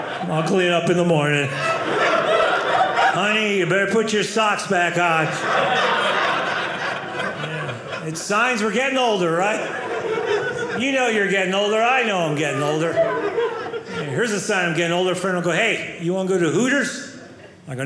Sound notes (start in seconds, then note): 5.9 audience laughing